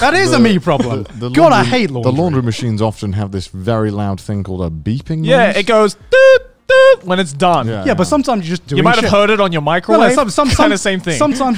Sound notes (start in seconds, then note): 6.4 beeps